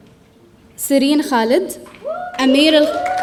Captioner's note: audience cheering